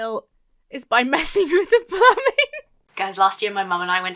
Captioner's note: laughs